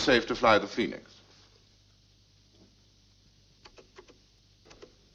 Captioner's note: person typing